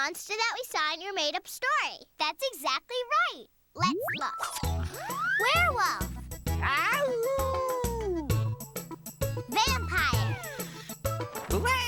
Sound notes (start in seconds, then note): 7.0 howls